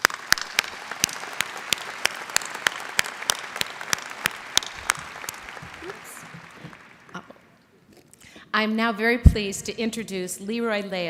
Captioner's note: applause